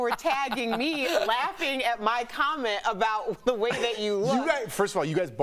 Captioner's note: laughter